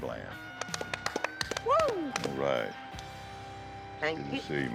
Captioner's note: applause, cheers